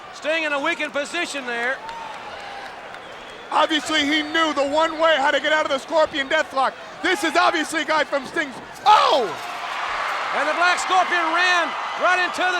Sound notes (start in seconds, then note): 8.8 Paul exclaiming; 8.9 crowd cheering